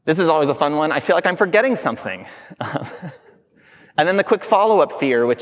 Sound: chuckling

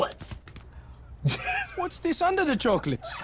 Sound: laughs

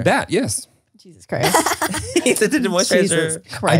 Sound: Laura laughs

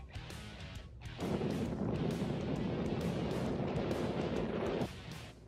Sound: wind rumbles; fast upbeat music

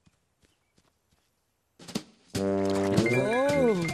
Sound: laughing

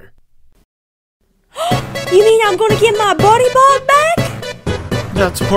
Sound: gasp!

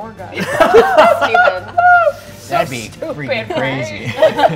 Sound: players laughing

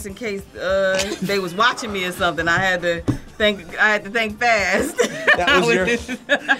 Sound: laughs

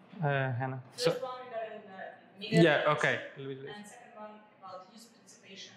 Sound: responds quietly

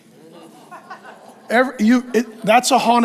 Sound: congregation laughs

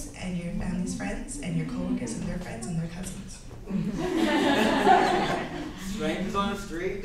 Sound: laughs from the crowd

